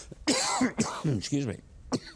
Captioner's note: Mike coughs